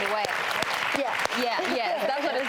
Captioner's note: applause